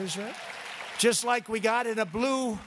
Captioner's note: applause